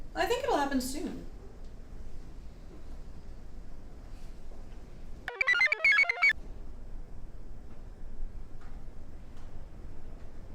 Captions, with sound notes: I think it'll happen soon. (computer chirps)